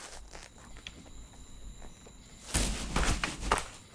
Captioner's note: crickets chirping